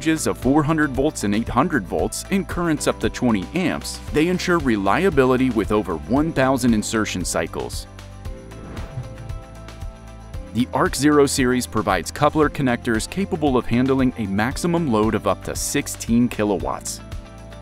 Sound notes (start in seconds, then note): 8.4 air whooshes